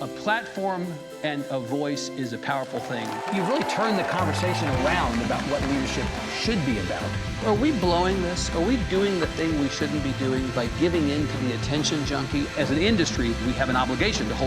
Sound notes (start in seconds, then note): 2.6 audience cheering